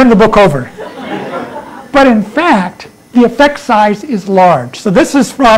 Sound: laughter

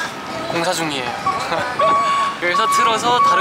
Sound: laughing

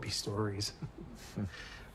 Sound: chuckles

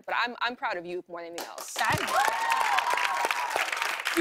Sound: cheers and applause

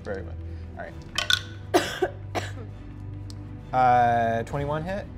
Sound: dice clicks

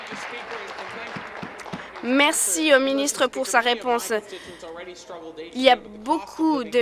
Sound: applause

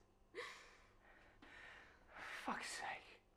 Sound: Gabby sobbing

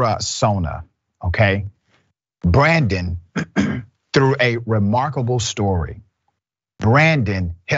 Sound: cough

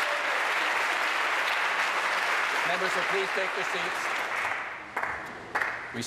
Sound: applause

